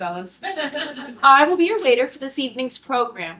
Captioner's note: laughter